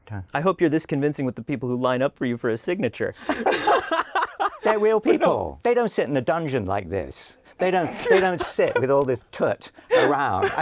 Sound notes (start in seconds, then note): 3.2 laughs; 7.8 laughter